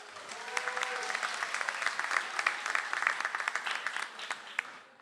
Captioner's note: audience applauds